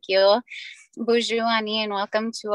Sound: speaking native language

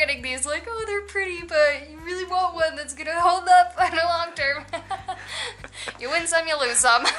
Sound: laughter

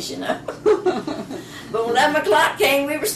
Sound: laughter

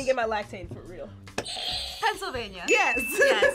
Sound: buzzer rings

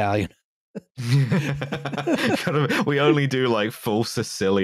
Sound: laughter

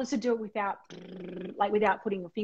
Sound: buzzing sound

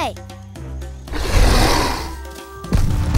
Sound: roaring

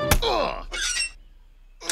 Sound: dramatic music; stone bangs; armor squeaks; body thuds

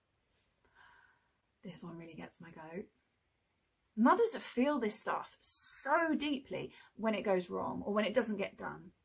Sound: sighs

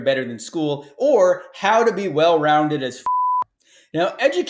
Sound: beeps

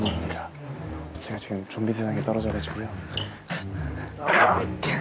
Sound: whispers; stumbling footsteps

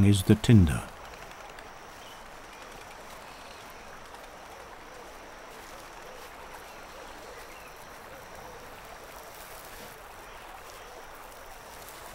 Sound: nature sounds

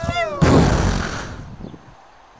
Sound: explosion

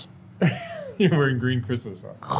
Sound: interviewer chuckling

